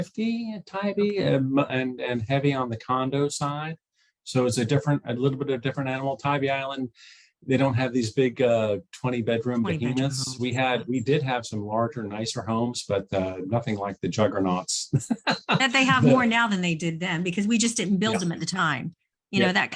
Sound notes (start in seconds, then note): 14.7 chuckles